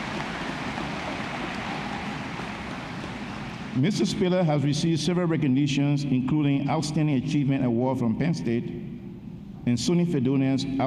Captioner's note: applause